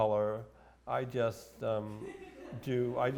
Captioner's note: audience laughs